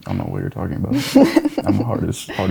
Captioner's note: laughing